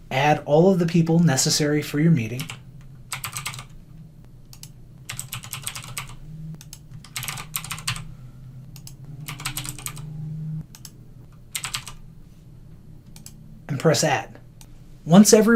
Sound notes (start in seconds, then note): 2.3 typing sounds